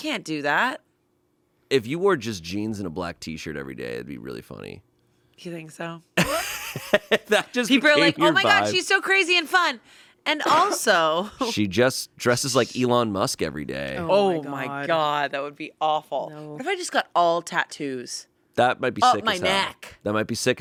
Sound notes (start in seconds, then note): 6.3 laughs